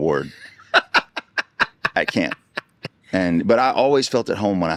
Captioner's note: laughing